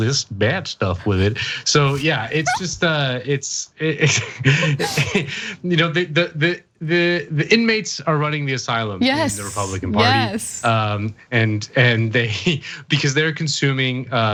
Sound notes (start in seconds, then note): 4.6 laugh